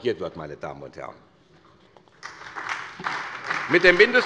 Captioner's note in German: Beifall bei der SPD